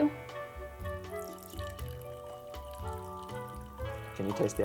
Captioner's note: water burbling